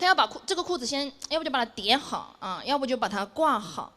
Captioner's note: none